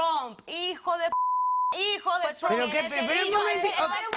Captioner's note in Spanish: Bip